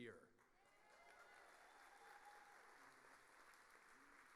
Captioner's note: audience applauding